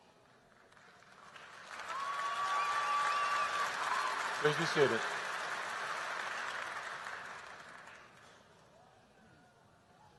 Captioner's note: applause